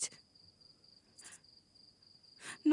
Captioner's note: crickets chirping